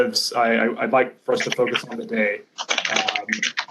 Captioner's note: computer typing